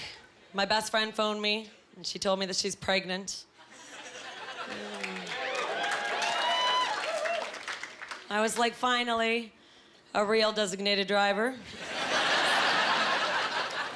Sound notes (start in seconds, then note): 4.8 cheering; 12.0 laughing